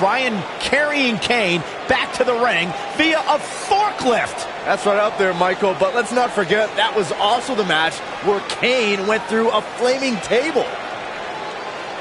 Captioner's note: crowd boos